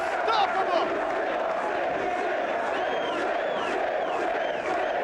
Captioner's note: crowd chants "Sid"